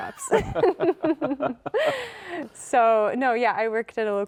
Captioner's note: both laughing